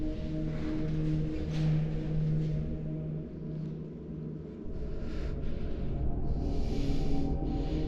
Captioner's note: Chris breathing heavily